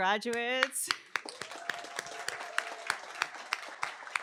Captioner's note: applause